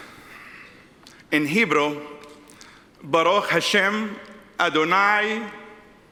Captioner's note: speaks in Hebrew